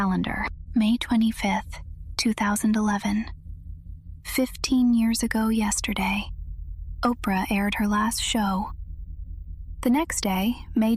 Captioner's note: whispers